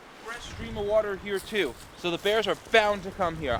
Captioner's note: none